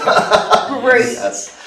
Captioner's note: laughing